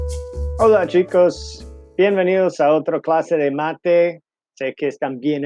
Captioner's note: speaking in Spanish